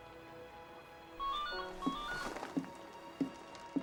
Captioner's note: ringing